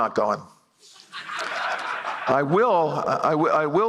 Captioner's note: laughter